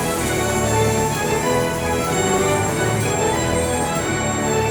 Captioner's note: train rattles